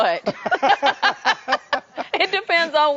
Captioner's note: both laugh